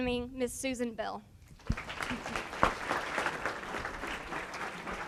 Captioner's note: applause